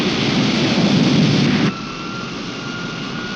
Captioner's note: wind whirring